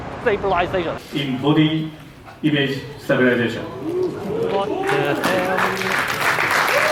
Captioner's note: audience applause